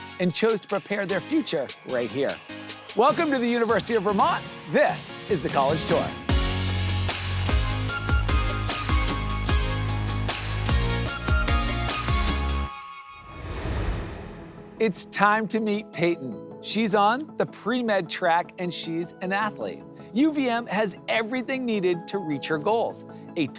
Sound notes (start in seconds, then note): 6.3 upbeat music; 13.2 air whooshes